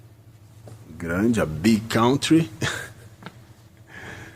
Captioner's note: laugh